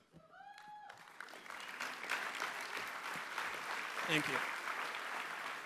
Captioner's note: applause